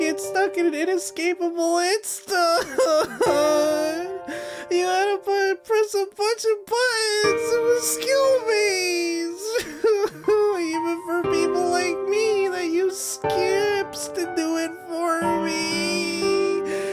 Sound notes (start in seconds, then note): 9.3 cries